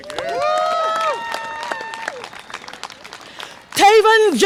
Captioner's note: audience applause and cheer